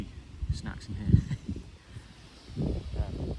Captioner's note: laughs